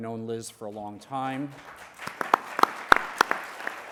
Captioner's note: applause